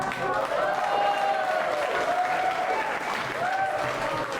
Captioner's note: audience applauds; audience cheers